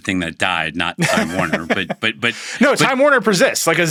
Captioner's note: chuckles